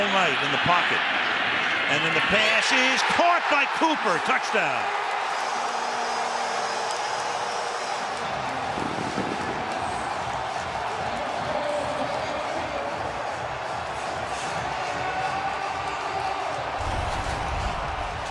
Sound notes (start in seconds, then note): 5.3 cheering; 11.6 pa announcement